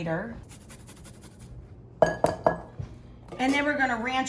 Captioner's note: garlic grating